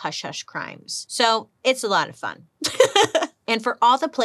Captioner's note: laughs